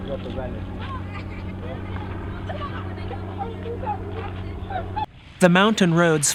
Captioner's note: boys laughing